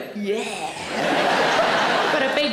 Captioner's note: audience laughing